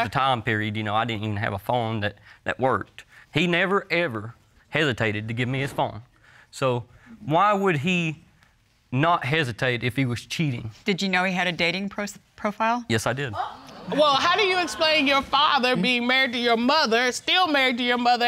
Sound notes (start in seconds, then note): 13.4 audience exclaims